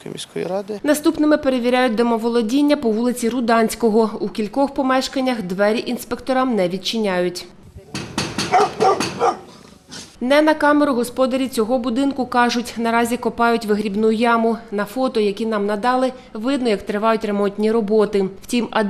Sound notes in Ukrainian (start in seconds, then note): 7.9 Стукають